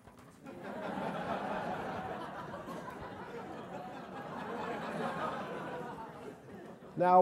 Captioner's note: laugh